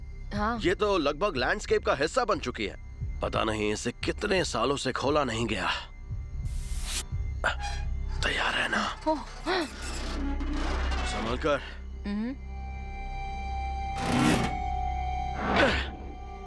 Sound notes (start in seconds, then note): 7.3 metal creaking; 13.2 groaning